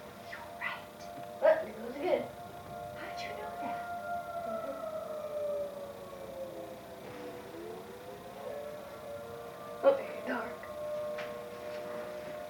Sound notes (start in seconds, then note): 0.8 whisper; 3.8 whisper; 4.2 siren continues; 10.7 siren